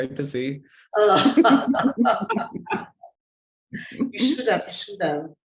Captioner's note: everyone laughing